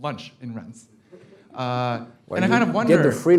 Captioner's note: laugh